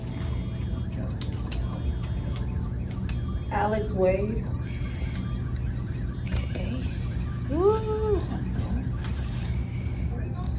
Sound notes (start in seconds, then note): 0.0 papers rustling; 1.0 police siren sounds on TV